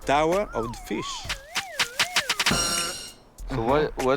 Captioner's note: sirens wailing